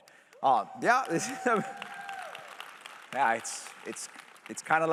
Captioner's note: cheers